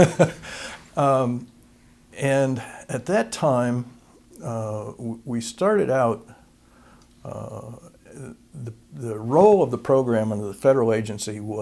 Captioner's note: laughter